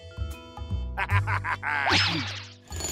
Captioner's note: laughs